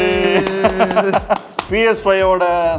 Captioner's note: clapping